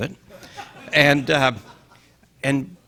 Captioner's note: audience laughing